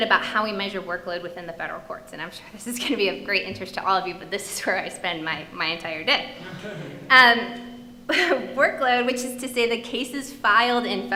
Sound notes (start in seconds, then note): 6.4 audience laughing; 8.2 chuckling